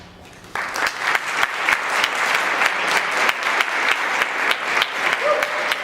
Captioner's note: applause